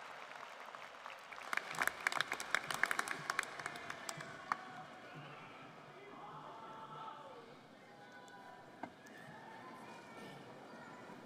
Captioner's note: applause